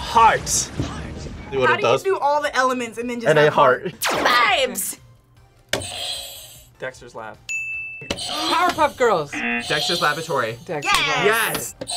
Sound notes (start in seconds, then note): 7.5 bell rings; 7.7 buzzer rings